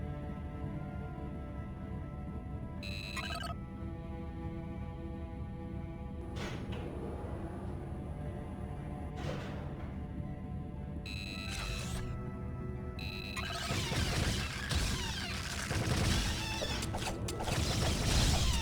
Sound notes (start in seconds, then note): 0.2 laser blasts; 9.1 beeps; 13.0 laser blasts; 15.8 beeps